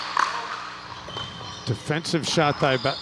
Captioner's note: ball bouncing